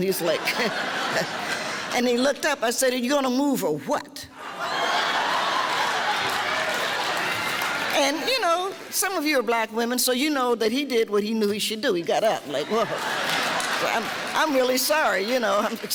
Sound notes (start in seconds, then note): 4.5 laughing